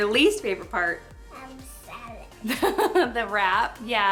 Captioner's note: laughs